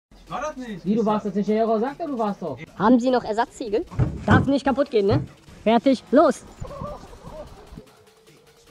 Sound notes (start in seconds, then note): 6.6 laughter